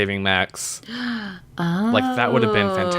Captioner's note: gasps